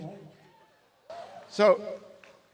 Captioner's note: crowd cheers